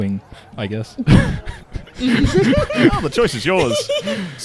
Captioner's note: laughs; laughter